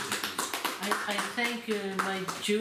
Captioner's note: clapping